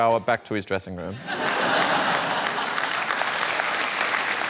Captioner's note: laughter